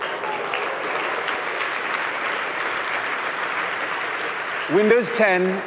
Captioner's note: applause